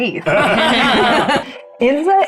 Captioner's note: everyone laughs